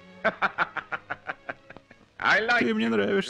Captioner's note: laughs; chuckle